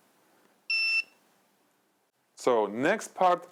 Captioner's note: light beeps